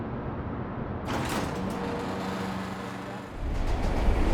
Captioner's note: garage door opening; train track rumbling